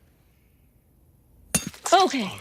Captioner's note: hammer clinking